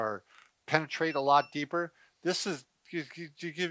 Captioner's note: massager beeps